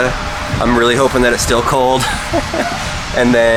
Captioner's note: laughs